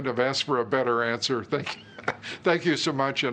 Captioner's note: laughter